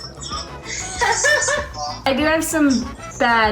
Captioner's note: laughing